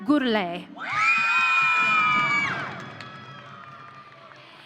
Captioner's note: audience cheering